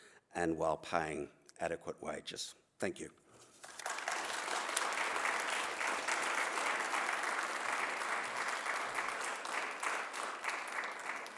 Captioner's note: applause